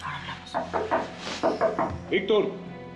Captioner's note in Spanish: Siguen los toques en la puerta